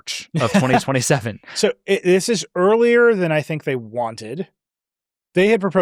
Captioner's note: laughs